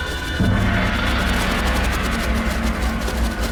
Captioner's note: gong sounds